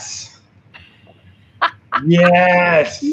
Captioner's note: host laughs